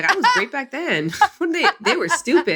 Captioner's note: laughs